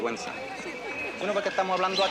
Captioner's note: both chuckle